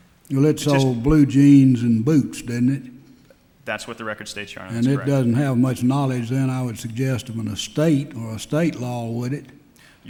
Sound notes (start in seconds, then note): none